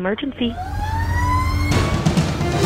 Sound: sirens blaring; intense music

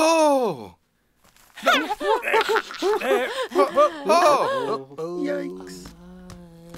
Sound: laughing

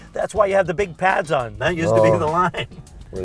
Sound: laughing

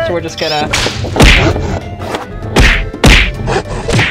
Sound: chopping

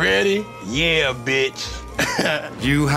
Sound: laughs

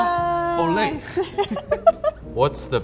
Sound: laughing

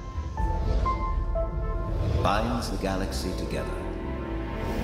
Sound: multiple whooshes

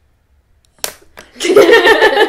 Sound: click; laughing

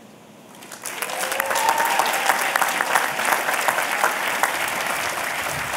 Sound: applause

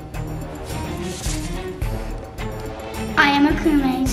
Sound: paper rustling

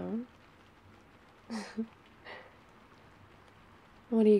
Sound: laughs

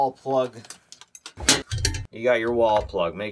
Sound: metal clinks

